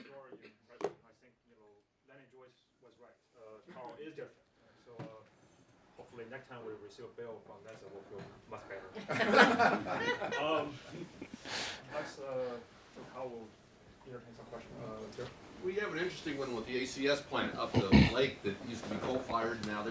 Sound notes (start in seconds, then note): 9.0 laugh